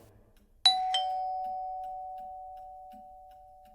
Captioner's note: ding dong